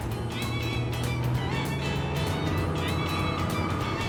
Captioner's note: motor roars